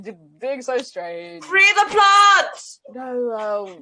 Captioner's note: shouts